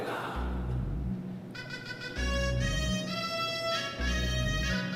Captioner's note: non-english speech